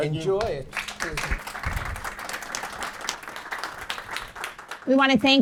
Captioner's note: audience applauding